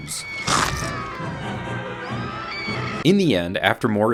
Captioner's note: woman screaming